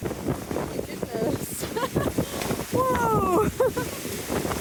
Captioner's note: laughing